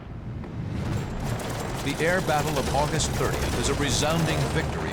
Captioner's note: gunshots